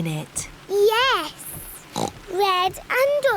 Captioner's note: oinks